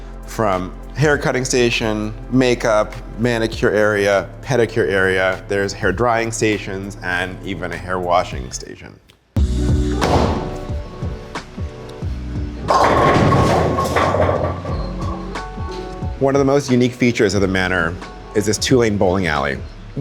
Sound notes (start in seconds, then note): 9.9 ball thuds; 12.6 pins clattering